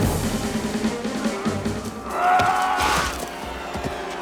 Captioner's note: yelling